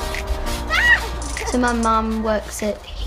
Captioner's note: screaming and laughter